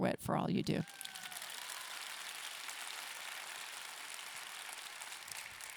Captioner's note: audience clapping and cheering